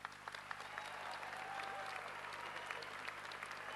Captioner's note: applause